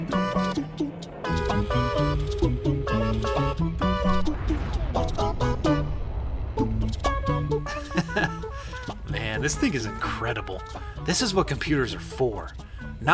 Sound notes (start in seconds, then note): 4.0 loud whooshing; 7.6 laughs